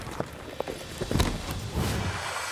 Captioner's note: hoofbeats; falls down; splashing